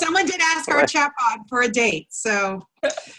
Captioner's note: laughter